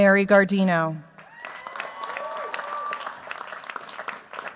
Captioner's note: cheers, applause